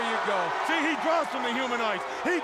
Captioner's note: crowd cheering